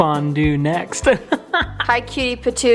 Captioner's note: laughs